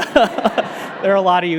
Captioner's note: laughing; audience laughing